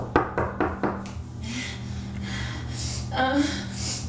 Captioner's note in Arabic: يطرق الباب